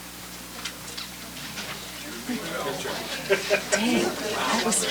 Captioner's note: background conversations